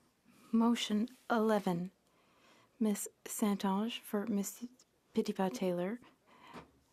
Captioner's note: speaking French